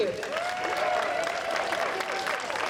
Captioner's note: audience applauding